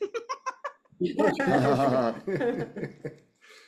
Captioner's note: laughter